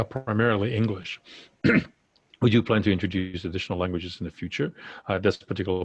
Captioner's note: cough